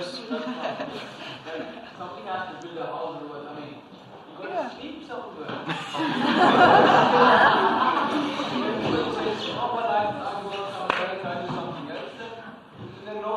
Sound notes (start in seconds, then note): 5.6 laughter